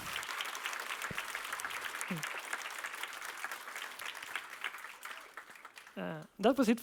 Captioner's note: applause